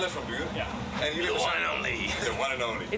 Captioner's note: laughing